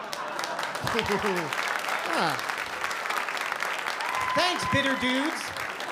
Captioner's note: applause